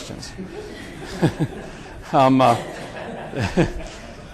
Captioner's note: group chuckles